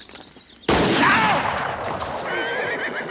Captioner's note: horse neighs; gun fires; Anthony screams; horse neighs